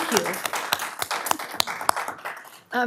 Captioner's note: applause